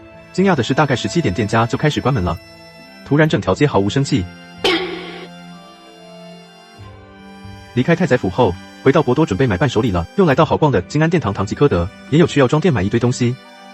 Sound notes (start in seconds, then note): 4.6 laughs